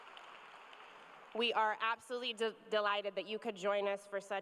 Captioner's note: cheers and applause